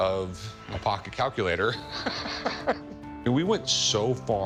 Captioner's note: chuckles